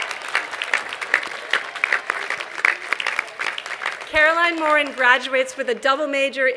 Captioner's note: applause